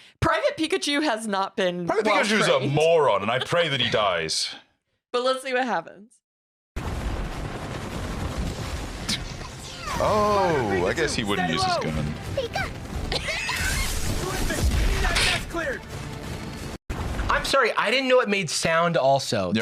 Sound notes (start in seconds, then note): 6.8 gunfire; 15.0 laughs